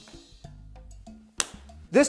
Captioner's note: slap!